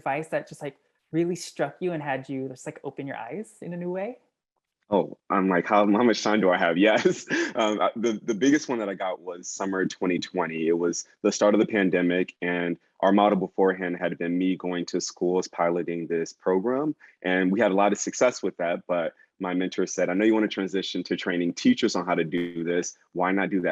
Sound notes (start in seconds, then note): 4.9 laugh